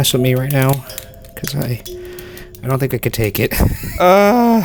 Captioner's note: laughing